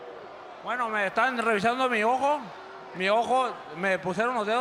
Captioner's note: speaking Spanish